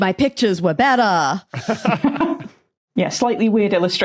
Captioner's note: laugh